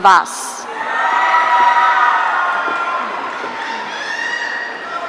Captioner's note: audience cheering